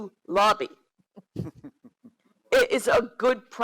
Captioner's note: giggles